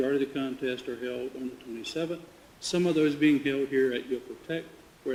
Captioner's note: none